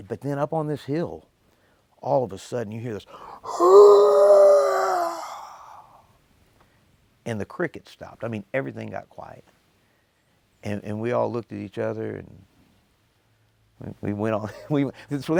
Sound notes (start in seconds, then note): 3.3 growling